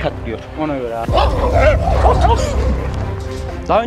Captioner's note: barking sounds and tension music